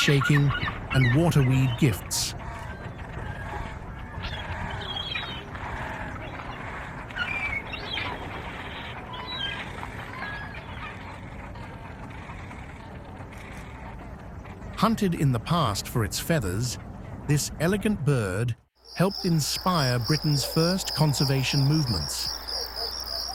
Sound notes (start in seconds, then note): 14.8 birds chirping; 23.1 birds chirping